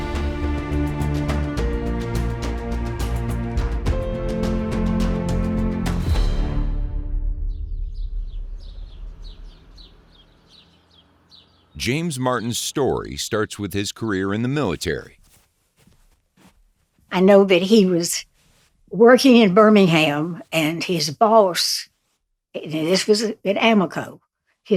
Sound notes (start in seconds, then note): 0.0 powerful music; 8.5 birds twittering